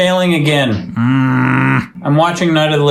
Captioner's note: angrily grunting